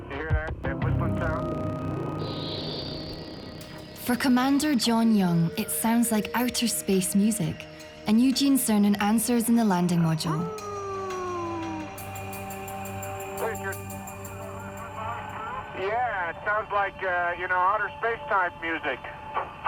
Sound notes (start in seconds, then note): 2.2 eerie whistling sound